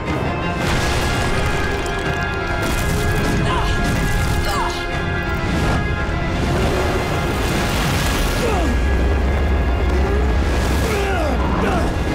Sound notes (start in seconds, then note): 2.9 grunting; 7.8 grunting